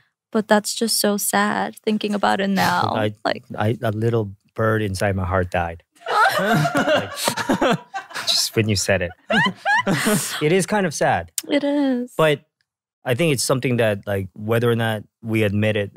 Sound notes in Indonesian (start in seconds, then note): 6.0 hahahahaha